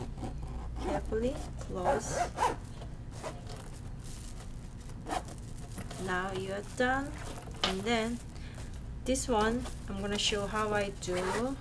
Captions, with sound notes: Carefully close. (zipper zipping) Now you're done, and then, this one, I'm gonna show how I do.